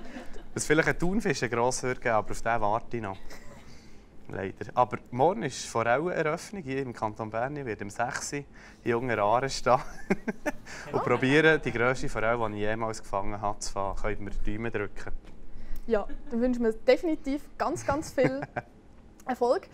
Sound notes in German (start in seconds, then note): 10.0 lacht